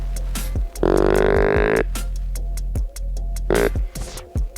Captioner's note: energetic music; deer calling